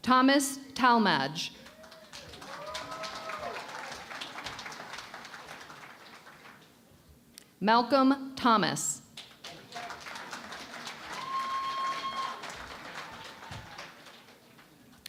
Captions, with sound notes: Thomas Talmadge. [ Cheering and Applause ] Malcolm Thomas. [ Applause ]